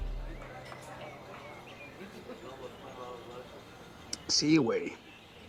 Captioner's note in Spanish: Bullicio